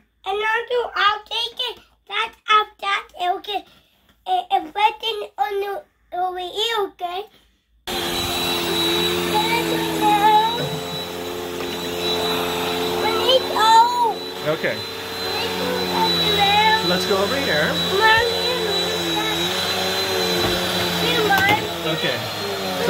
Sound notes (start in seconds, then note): 7.9 vacuum sound